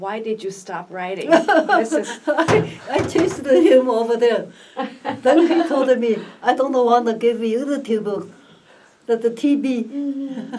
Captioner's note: laughs